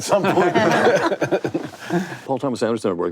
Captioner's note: panelists laugh